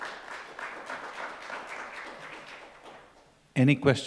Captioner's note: applause